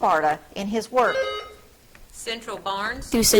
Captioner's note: buzzer trills